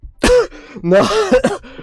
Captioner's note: cough